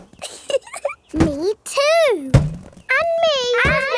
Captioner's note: chuckles